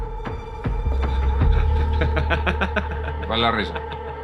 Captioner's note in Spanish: Ríe